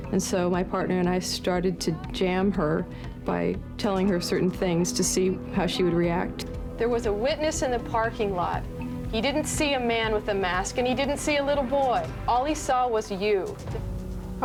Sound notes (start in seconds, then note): none